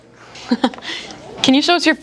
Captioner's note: interviewer laughs